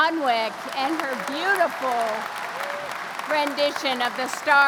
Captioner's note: crowd applauding